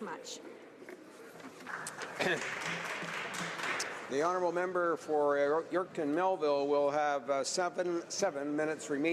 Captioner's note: applause